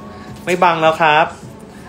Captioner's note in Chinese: none